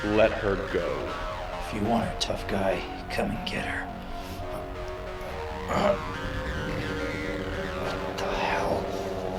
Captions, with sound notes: - Let her go. - If you want her tough guy, come and get her. (man grunting) What the hell?